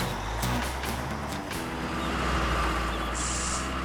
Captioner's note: engines Running